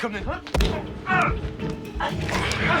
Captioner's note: grunting